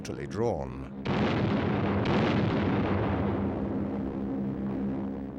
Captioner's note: bombs exploding